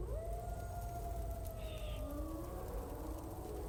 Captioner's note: animal howls